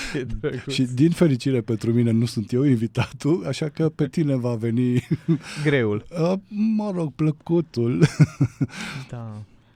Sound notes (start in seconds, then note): 5.2 laughter